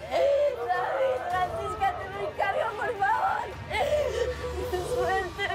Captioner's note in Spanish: Sollozos